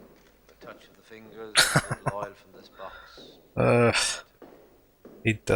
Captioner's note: laughing